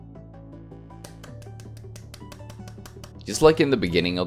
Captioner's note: adorable clapping sounds